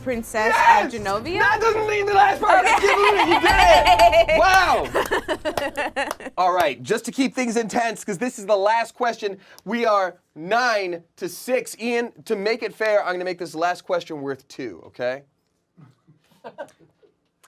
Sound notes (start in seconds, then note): 4.3 claps; 5.0 laughs